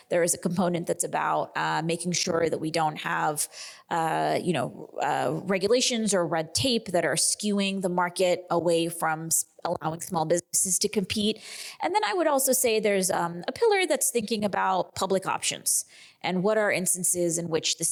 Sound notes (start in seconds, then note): none